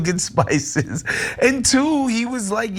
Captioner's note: laugh